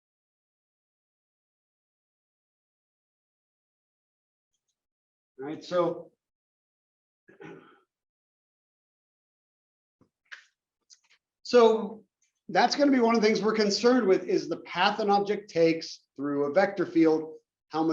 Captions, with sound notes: All right, [COUGH] So, that's gonna be one of the things we're concerned with is the path an object takes through a vector